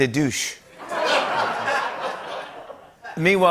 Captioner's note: laughter